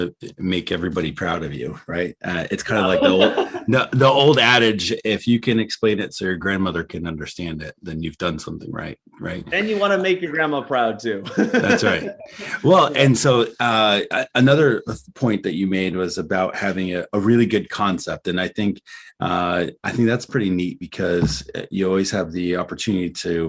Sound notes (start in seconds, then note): 11.0 laughs